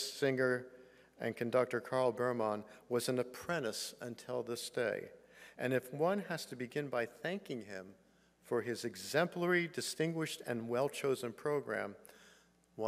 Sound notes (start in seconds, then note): none